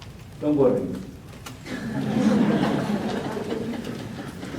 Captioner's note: audience laughs